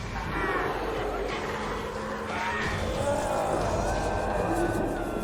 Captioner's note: revenants roaring